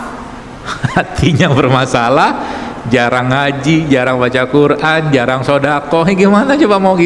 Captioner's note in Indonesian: tertawa